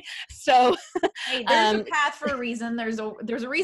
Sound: laughing

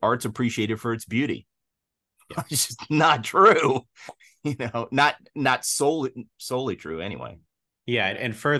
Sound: laughs

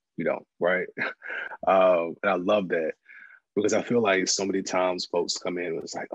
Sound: laugh

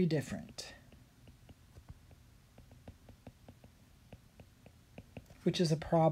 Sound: writing

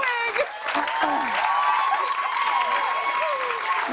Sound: cheers and applause; clears throat

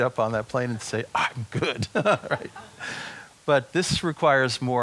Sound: chuckles

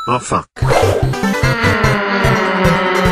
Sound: Mario imitates car noise

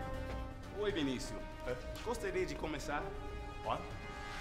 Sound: speaking in Spanish

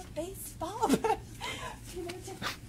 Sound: chuckling

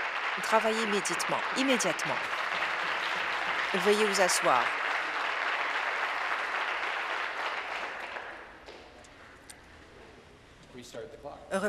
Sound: applause

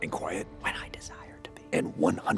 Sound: whispering

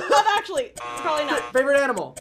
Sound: buzzer

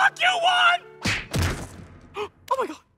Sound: fist smacks

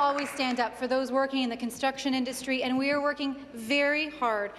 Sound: applause

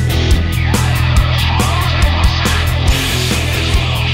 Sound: audio in reverse

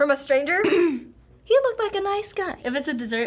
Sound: clears throat

